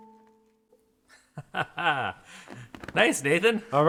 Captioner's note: both laughin